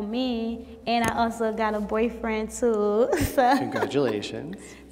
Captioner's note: laughs